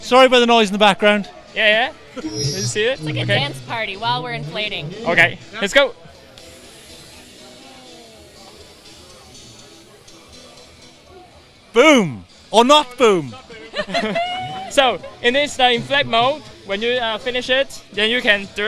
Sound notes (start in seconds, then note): 6.4 air releasing; 13.6 laughter